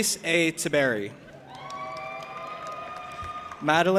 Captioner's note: audience applauding and cheering